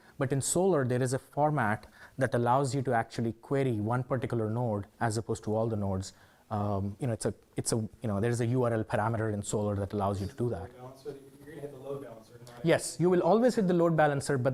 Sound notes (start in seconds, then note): 11.6 man speaking faintly off microphone